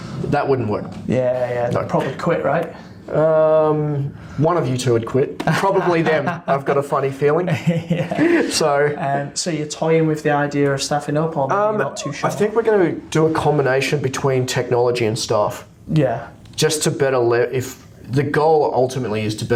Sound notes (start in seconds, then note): 7.5 laughs